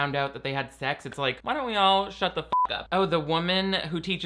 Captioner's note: beep